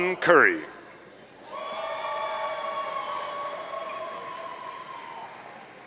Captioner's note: audience cheering